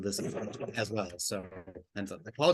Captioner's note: audio breaks up